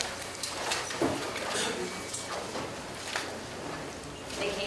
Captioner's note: papers rustling